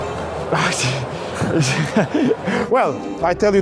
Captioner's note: laughs; stammers